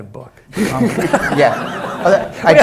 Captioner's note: laughs